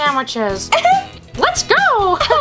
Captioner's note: giggles